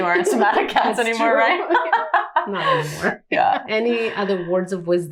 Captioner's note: both laughing